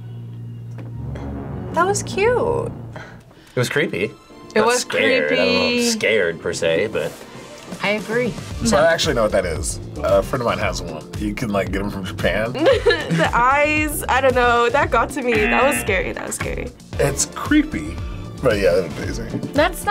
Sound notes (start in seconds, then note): 12.6 laughs; 15.3 buzzer rings